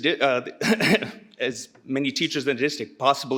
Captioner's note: clears throat